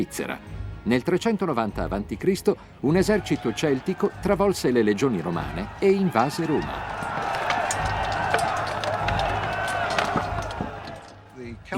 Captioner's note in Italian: Applauso